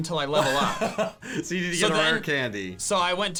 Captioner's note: laughs